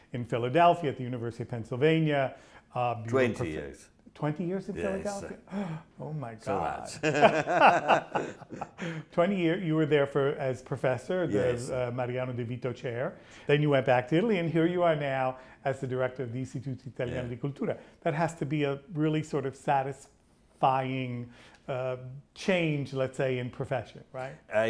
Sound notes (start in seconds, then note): 6.6 laughs